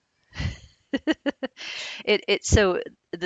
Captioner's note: laughs